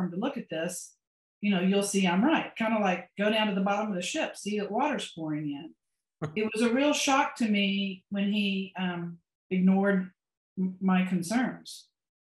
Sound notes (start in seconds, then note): 6.6 laughs